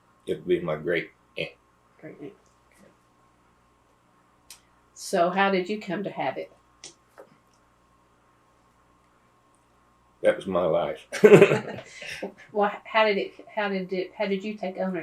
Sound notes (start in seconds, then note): 11.1 laughs